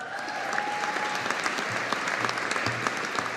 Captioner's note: audience applauding